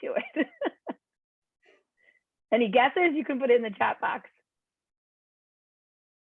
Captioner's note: laughter